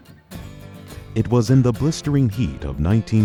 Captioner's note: voiceover